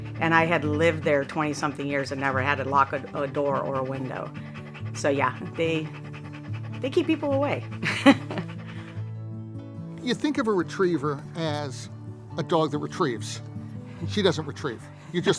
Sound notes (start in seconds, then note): 9.0 laughs